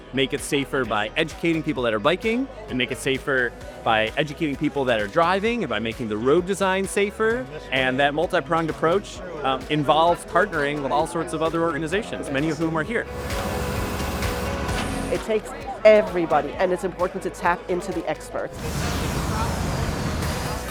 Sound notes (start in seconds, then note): 13.1 hydraulic lift lowering; 18.5 drone taking off